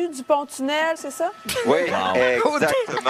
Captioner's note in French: éclat de rires en studio